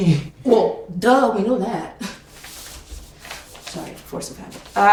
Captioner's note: laughing; scoffing